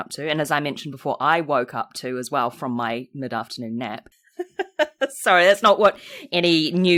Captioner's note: laughs